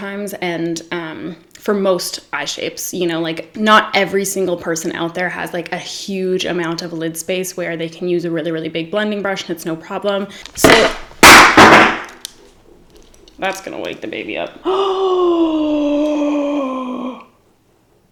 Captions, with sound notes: and for most eye shapes, you know? Not every single person out there has like a huge amount of lid space where they can use a really, really big blending brush and it's no problem. (crash) (bang) That's gonna wake the baby up. (gasps)